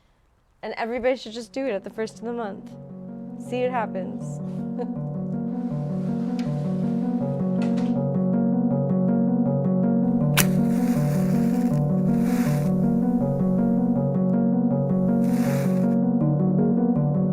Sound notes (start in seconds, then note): 7.5 door latches; 10.6 match strikes